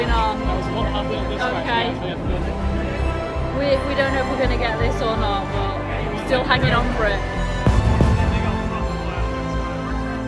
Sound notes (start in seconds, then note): 7.7 fireworks popping